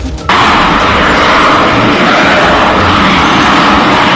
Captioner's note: jet engine roaring